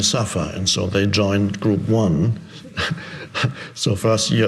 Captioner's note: laughing